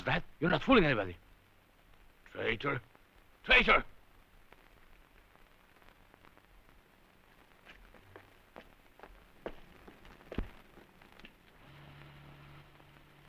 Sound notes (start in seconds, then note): 7.3 footsteps receding